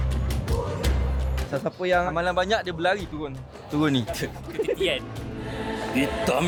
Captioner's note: laugh